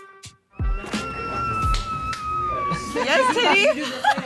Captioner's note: funky music; screaming